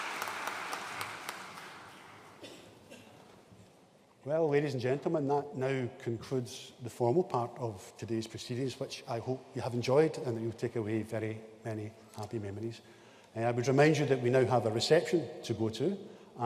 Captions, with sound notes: (ATTENDEE COUGHING) Well, ladies and gentlemen, that now concludes the formal part of today's proceedings, which I hope you have enjoyed and that you'll take away very many happy memories. I would remind you that we now have a reception to go to,